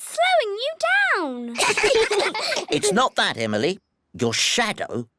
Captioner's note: all giggle